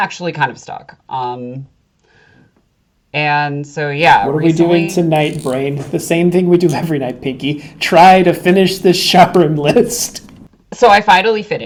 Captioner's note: sarcasm